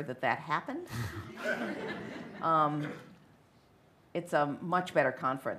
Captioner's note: laughter